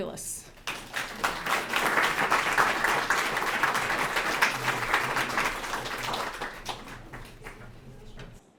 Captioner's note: applause